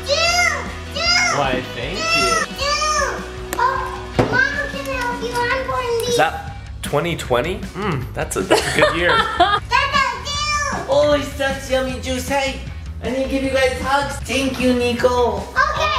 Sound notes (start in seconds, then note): 8.4 laughing